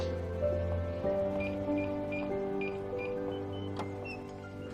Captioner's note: beeping